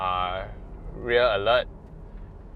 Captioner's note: traffic